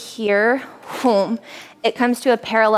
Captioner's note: air sound effect